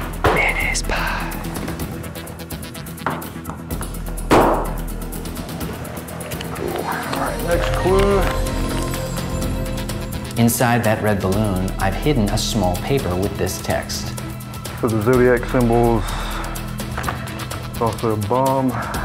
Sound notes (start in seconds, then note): 4.3 balloon pops; 7.2 upbeat chime